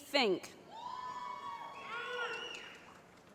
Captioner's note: cheering